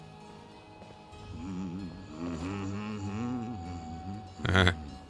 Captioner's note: humming